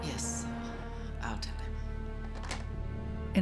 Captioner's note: handset Settles In Cradle